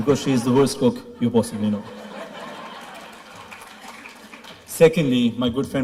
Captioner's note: laughter, applause